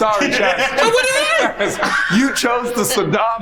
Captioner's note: laughs